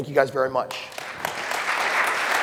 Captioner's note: applause